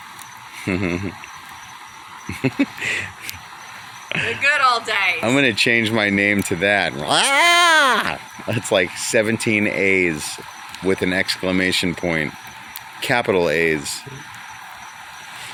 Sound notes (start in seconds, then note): 0.6 laughing; 7.0 braying like a goat